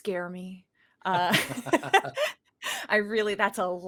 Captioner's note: both laugh